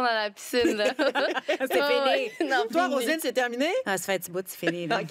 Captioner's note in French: rires